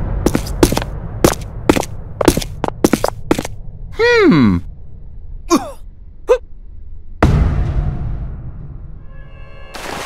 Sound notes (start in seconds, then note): 0.1 footsteps; 4.0 gasps